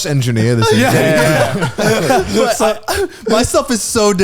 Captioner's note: all laughing